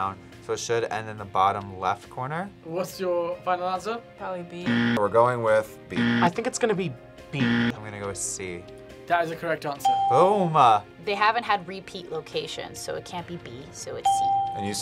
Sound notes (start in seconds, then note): 4.6 buzzer rings; 7.3 buzzer rings; 10.0 bell rings